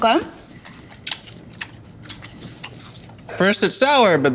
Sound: chewing

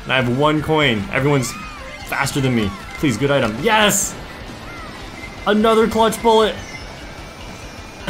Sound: laughs

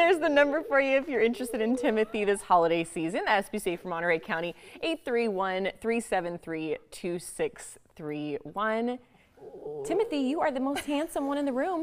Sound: laughter

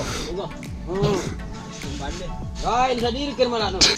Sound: laughs; people chatter

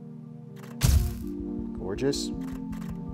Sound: camera clicks

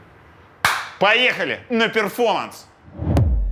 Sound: claps hands; electronic music

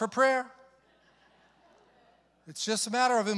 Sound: congregation chuckles

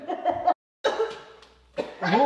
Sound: muffled laughing; COUGHING, gagging

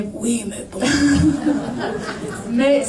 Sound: laughs

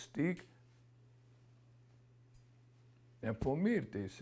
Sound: pauses for 3 seconds

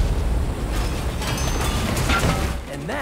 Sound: explosion; rattling

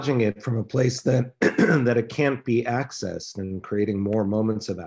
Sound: clears throat

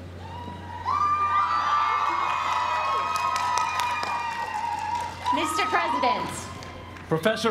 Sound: applause

